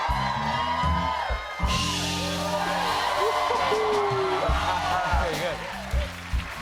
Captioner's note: cheers and applause